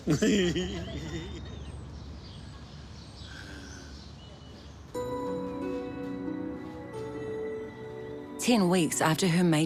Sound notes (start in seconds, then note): 0.0 laughs; 3.3 sighs